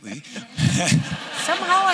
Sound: laughter

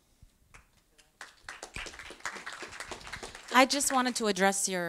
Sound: audience applause

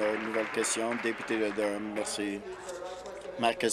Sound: applause

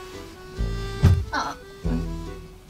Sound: thump

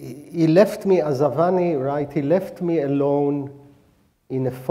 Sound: speaking hebrew

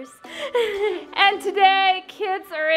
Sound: laughs

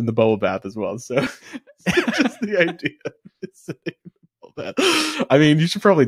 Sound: laughing

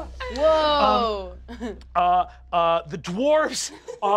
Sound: chuckles

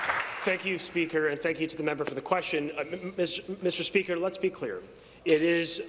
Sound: applause

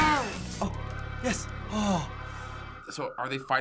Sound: sighing

